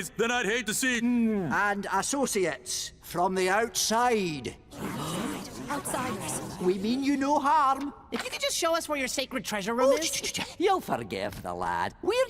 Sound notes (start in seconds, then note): 4.7 mummies murmuring; 5.8 gasps